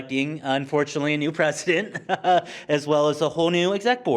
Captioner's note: chuckles